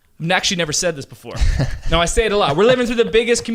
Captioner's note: laughing